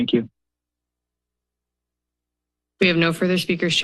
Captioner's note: silence